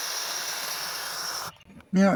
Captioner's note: hissing sound